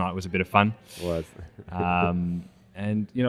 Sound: chuckle

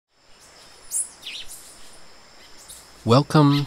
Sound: birds singing

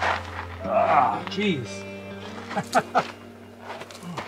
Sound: laughter

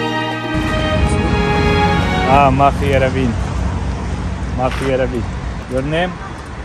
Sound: speaking arabic

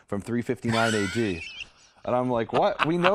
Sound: laughter

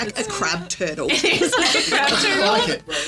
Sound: laughing

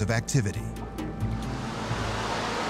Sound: steam hissing

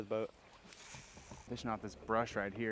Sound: reel spinning

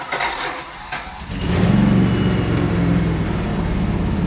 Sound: engine purrs

